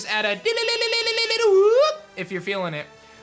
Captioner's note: Kricketune cry